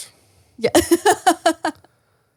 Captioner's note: laughs